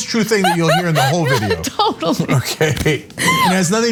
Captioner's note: laugh